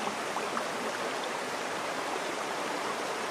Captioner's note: water flowing